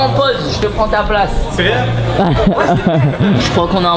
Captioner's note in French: rire